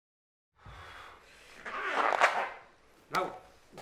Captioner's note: stone squeaking on leather